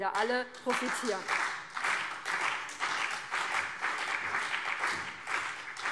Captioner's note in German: Beifall BÜNDNIS 90/DIE GRÜNEN und CDU